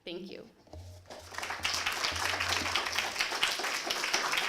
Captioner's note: applause